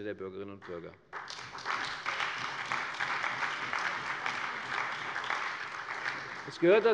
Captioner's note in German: Beifall bei der CDU, dem BÜNDNIS 90/DIE GRÜNEN, der SPD und der FDP